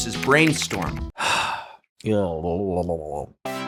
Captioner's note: sighs